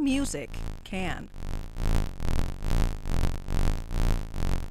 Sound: buzzing

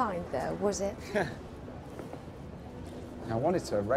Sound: laughing

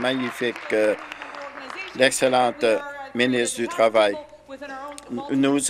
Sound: applause

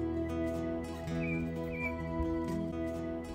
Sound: birds chirping

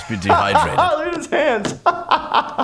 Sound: laughing

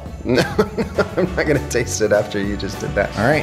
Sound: laughs

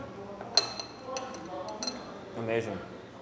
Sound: chopsticks clink

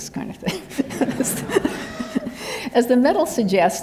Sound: laughter

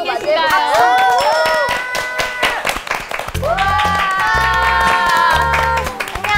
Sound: claps

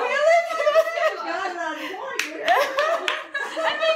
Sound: laughter; more laughter

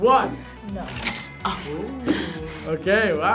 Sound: laughs

